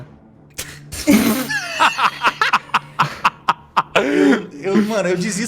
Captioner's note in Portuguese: Risos